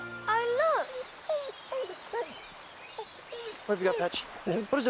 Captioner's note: Patch whining